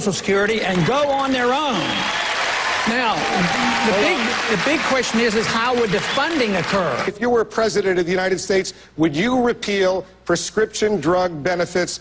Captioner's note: cheers, applause